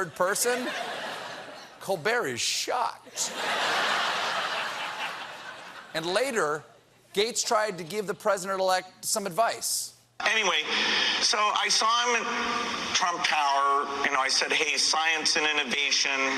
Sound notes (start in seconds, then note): 3.1 laughter